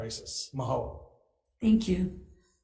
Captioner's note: speaking in foreign language